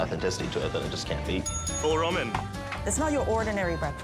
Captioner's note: bell rings